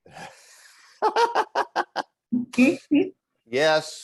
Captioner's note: laughter